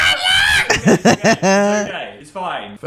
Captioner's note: laughter